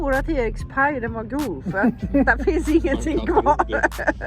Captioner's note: laughter